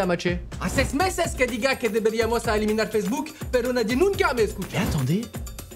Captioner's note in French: en espagnol